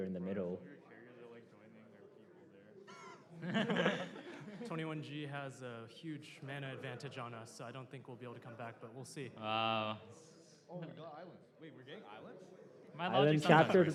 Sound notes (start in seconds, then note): 3.0 laughter